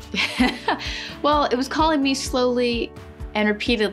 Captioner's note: laughs